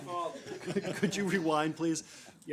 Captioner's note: laughter